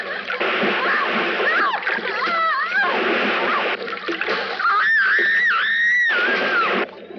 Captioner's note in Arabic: تصرخ المرأة